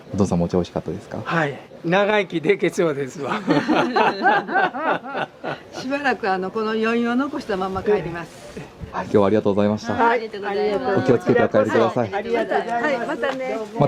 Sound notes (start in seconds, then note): 3.2 laughs